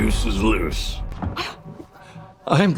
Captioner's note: gasps